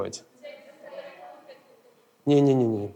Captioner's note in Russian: голоса из зала